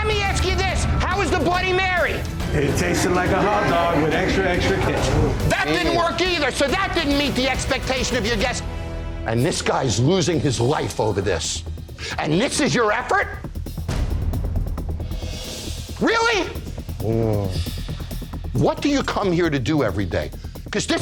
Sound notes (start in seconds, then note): 14.4 suspenseful music; 17.0 groans